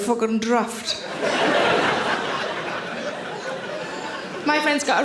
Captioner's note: audience laughing